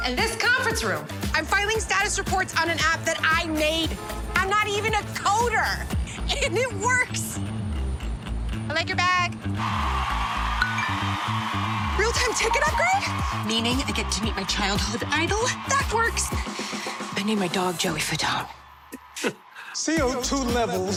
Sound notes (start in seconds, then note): 9.5 cheering; 10.5 phone chimes; 18.6 chuckles